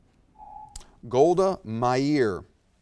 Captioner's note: alarm echoes